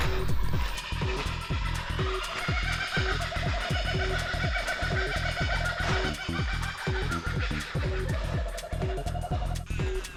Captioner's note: kookaburras laugh loudly